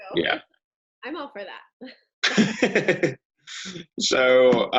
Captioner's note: chuckling